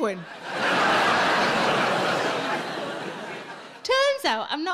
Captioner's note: audience laughing